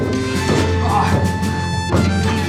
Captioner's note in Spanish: gruñido